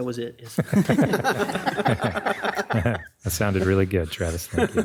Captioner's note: crowd laughs